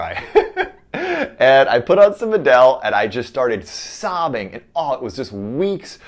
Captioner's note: laughs